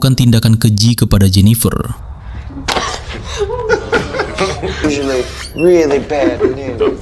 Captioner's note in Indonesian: tertawa